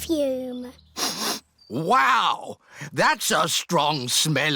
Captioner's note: sniffs